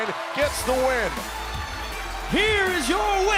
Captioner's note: bell ringing